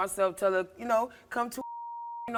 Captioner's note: beep